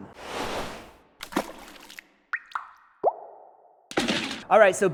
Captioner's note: water drop sound